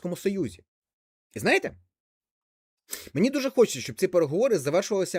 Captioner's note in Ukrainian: сопіння